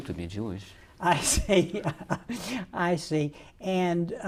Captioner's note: laughs